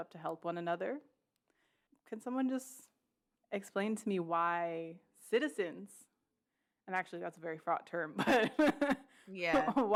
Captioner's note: laughs